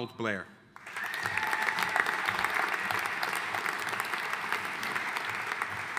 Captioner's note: audience cheering and applauding